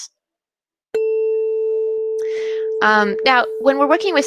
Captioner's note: tuning fork sound